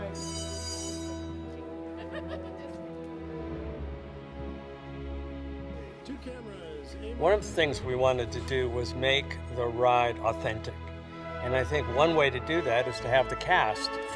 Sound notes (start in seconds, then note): 0.1 bell ringing; 1.7 woman laughing